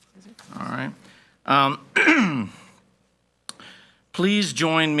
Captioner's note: clears throat